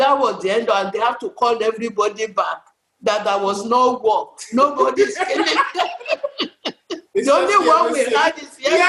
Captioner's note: laughs